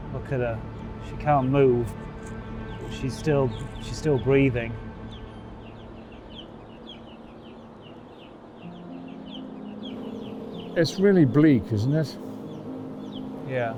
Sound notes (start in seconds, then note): 5.2 chicks chirping